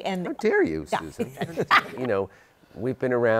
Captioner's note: laughs